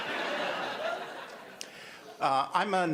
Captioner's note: audience laughter